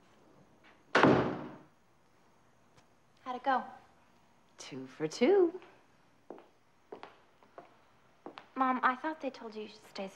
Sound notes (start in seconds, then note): 1.0 door closes